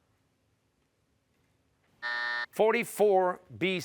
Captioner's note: buzzer